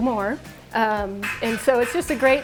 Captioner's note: bed spring squeaking